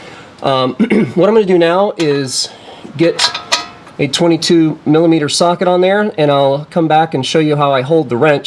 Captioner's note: clears throat